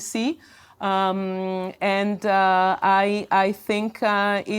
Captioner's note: none